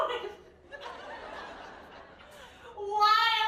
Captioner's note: crying